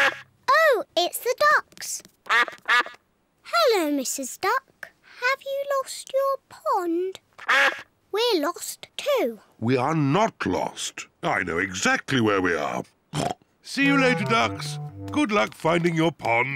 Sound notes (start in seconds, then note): 2.2 quacking; 7.4 duck quacks; 13.1 oinks